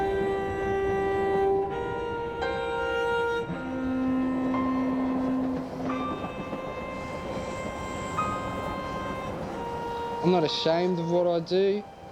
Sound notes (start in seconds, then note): none